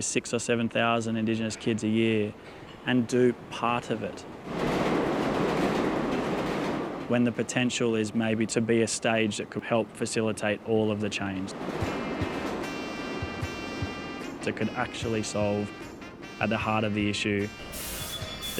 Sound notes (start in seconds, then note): 4.8 rattling train; 11.8 gentle upbeat music